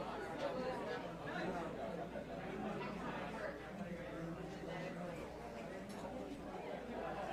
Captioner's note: audience members chattering indistinctly